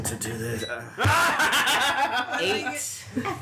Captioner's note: laughter